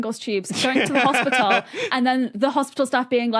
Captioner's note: laughs